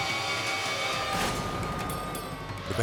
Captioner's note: tires squealing; van slams